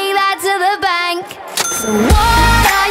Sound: ring

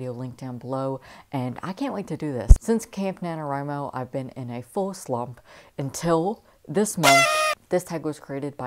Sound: party horn

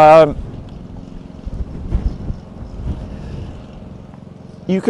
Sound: mower groaning

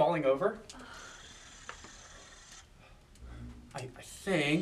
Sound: sonic buzzing

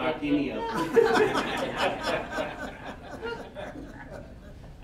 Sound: all laughing

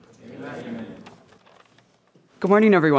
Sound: crowd

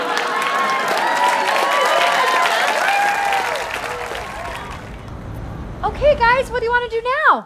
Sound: audience cheering

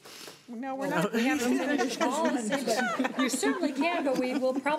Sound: crowd commotion

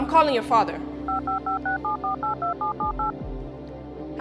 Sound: phone dialing

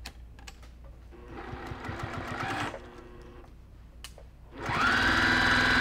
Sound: sewing machine noises

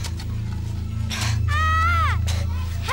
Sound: kid screaming

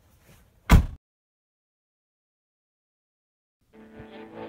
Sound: car door slam

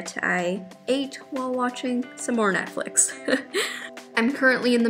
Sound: chuckles

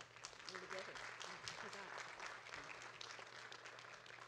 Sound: audience claps

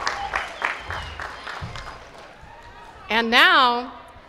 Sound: applause

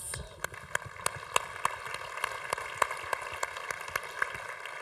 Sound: congregation applauding

